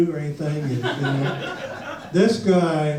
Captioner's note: audience laughs